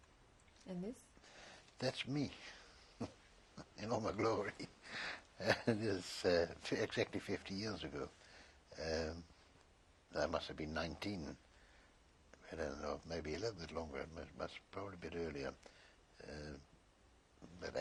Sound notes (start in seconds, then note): 5.3 laughs